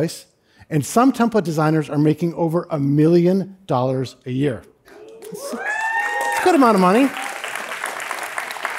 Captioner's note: cheering; applause